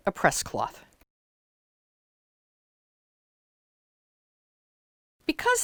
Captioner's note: no Sound Present